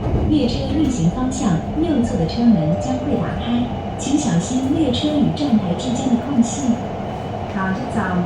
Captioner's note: Regular Mandarin announcement